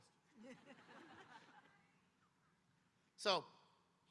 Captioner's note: audience laughing